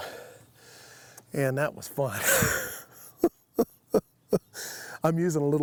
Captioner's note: chuckles